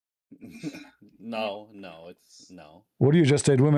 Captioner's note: berdehem